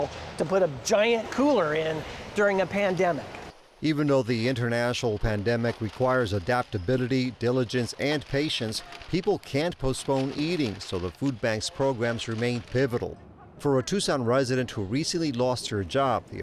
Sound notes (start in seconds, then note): 5.0 paper crinkling; 13.3 people chattering